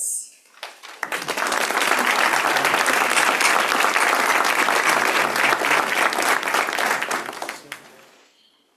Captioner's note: applause